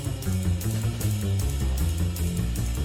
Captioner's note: none